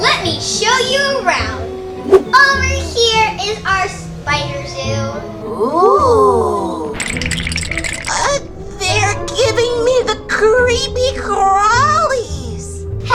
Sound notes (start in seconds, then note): 7.0 teeth chattering